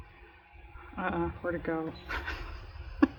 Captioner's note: laughs